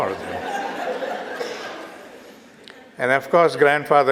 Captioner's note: audience Laughter